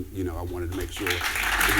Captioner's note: applause